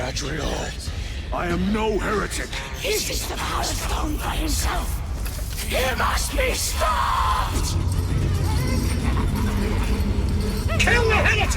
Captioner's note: screaming